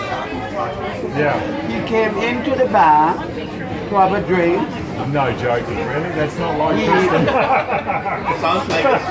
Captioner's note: laughs